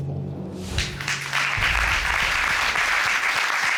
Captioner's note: applause